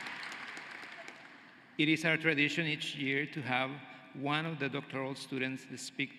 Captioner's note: cheering and applause